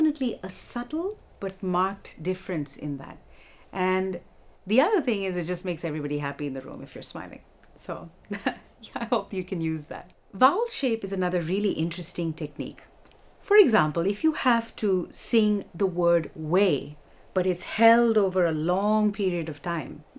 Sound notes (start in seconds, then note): 8.3 laughter